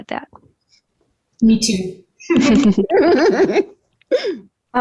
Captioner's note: all laughing